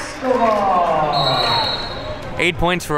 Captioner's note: whistle blows